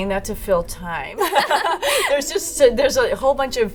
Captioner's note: laughter